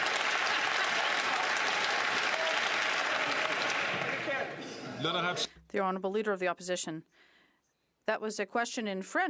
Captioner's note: some Applause